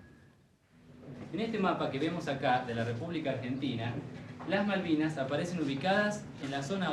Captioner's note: man speaking in foreign language